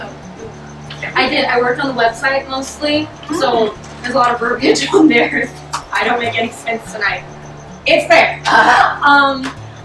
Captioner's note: laughs nervously